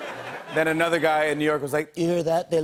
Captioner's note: As Donald Trump; laughter and applause